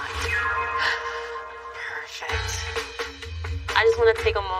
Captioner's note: gasps